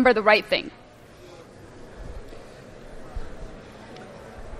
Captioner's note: background classroom chatter